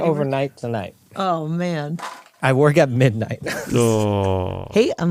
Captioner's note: laughs